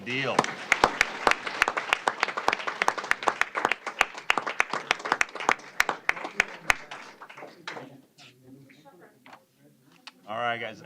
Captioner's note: applause